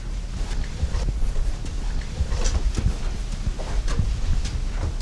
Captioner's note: footsteps thudding